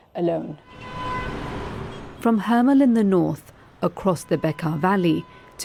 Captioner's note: horn honking